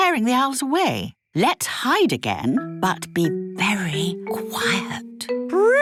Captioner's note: whispering